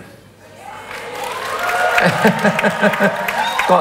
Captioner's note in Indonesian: tepuk tangan